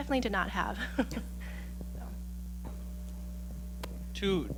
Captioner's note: chuckling